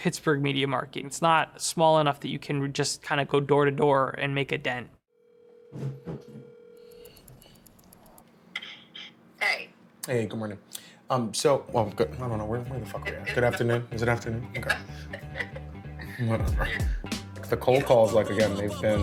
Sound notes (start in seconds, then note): 5.1 cell phone ringing; 14.6 laughs